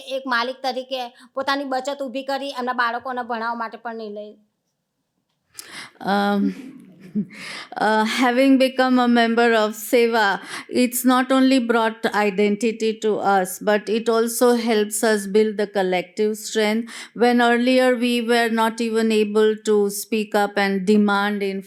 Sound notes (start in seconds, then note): 6.6 chuckles